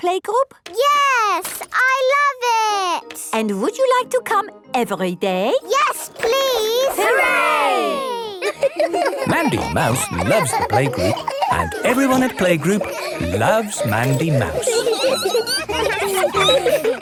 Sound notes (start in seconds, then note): 13.4 squeaking; 14.8 laughter